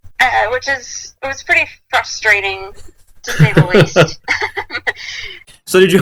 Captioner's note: laughs deservedly